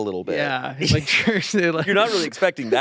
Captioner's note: laughs